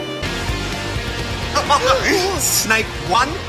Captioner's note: chuckles